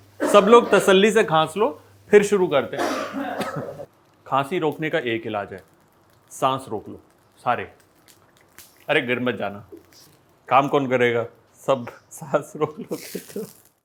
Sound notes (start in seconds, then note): 2.7 everyone coughing